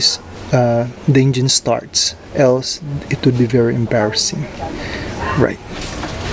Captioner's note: yawn